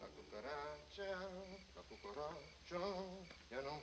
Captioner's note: tomaso humming